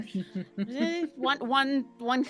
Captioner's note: chuckles